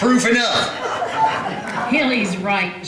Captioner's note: laughter